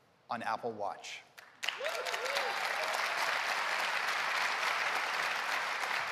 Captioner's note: applause